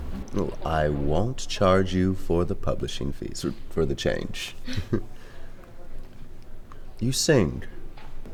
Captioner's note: they laugh